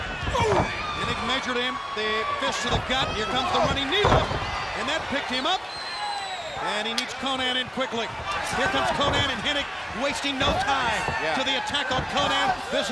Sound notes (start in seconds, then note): 0.0 blows thudding; 3.9 blows thudding; 3.9 body thudding